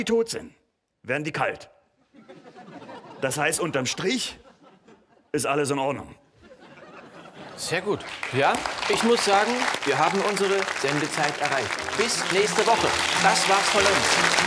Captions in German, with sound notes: sobald sie tot sind, werden die kalt. D.h., unterm Strich ist alles in Ordnung. Sehr gut. *Applaus* Wir haben unsere Sendezeit erreicht. Bis nächste Woche. Das war es von uns.